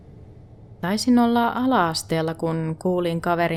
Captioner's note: in Finnish